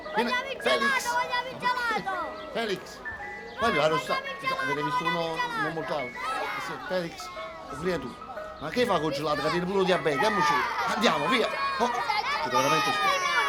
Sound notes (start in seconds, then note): 6.1 kids clamoring; 10.6 kids shouting for ice cream